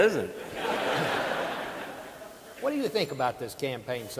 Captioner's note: audience laughing